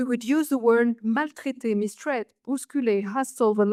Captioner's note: speaks French